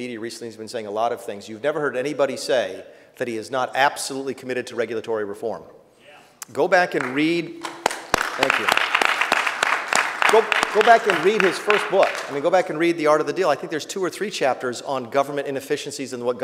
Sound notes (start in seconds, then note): 6.9 applause